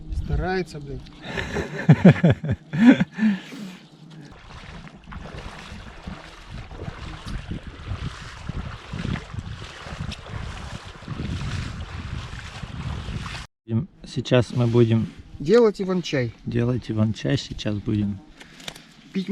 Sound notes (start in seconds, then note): 1.2 laughter; 3.8 footsteps in water